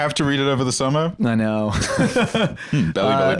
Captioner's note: laughs